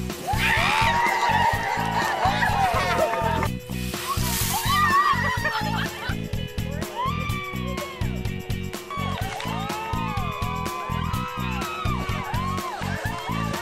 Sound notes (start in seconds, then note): 0.1 screaming and cheering; 4.1 screaming and laughing; 8.6 screaming and cheering